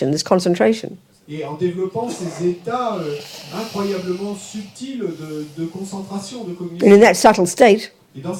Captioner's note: audience member speaks in French